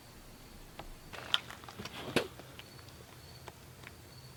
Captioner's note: crickets chirping